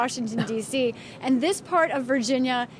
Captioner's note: laughter